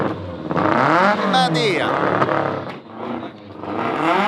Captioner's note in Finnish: moottorien pärinää